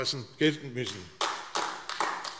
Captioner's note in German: Beifall AfD